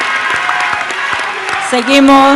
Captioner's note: applause